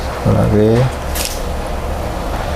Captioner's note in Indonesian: suara suntikan